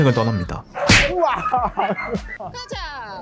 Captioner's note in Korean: 쿵!